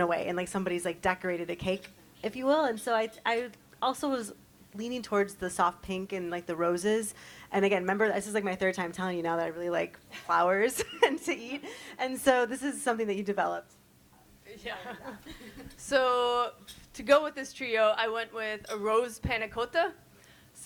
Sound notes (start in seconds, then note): 14.8 chuckles